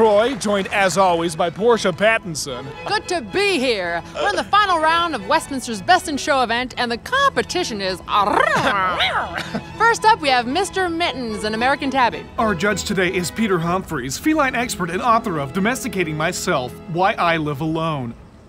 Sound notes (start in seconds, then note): 7.8 trills; 8.3 yowls